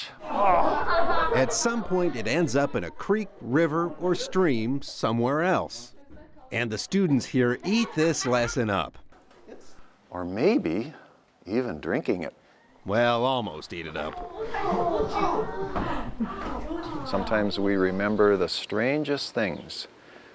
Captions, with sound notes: [kids laughing] >>At some point it ends up in a creek, river or stream somewhere else. And the students here eat this lesson up... >>Or maybe even drinking it. >>Well almost eat it up. [kids making sounds of disgust] >>Sometimes we remember the strangest things